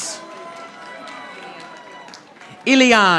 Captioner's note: audience applauding